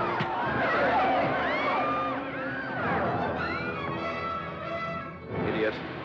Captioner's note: suspenseful music; commotion & chaos; thud